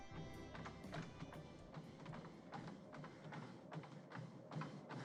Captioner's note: treadmill pounding